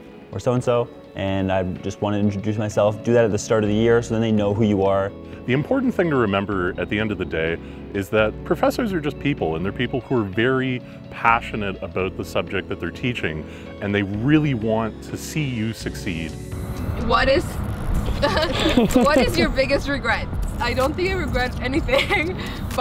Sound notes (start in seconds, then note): 18.0 laughs